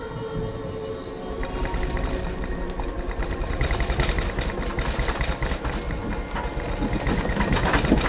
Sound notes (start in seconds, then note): 1.3 rattling and clattering